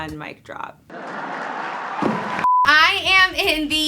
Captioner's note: applause